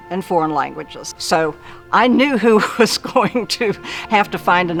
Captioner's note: laughs